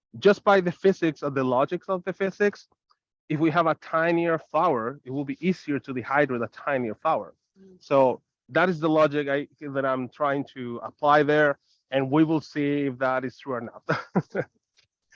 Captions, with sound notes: Just by the logics of the physics, if we have a tinier flower, it will be easier to dehydrate a tinier flower. So, that is the logic that I'm trying to apply there. And we will see if that is true or not (chuckles).